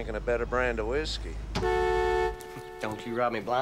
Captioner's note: horn blares